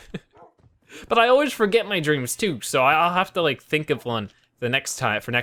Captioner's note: laughs